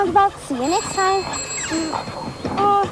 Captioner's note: phone ringing